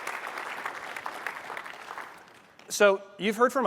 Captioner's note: applause